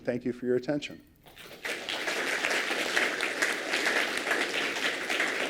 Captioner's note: applause